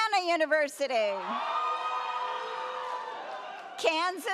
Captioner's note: audience cheers